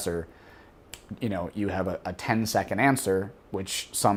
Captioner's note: snaps